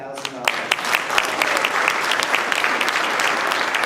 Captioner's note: applause